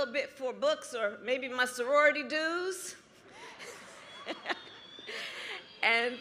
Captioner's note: applause